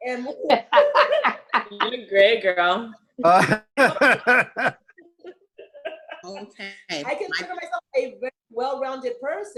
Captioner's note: laughter